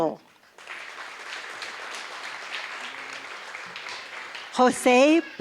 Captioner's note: applause